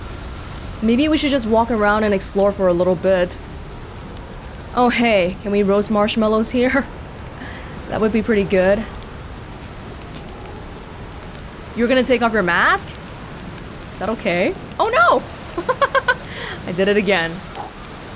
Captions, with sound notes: Maybe we should just walk around and explore for a little bit. Oh hey, can we roast marshmallows here? That would be pretty good. You're gonna take off your mask? Is that okay? Oh no! *laughs* I did it again.